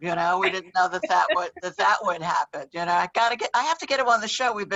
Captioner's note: laughs